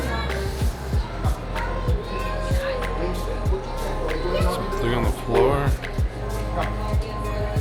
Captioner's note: children chattering